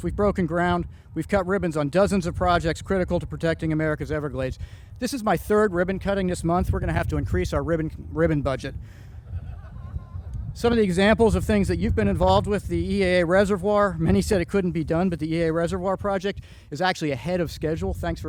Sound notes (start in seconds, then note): 9.2 crowd chuckling